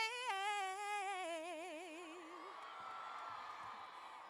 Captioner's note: cheers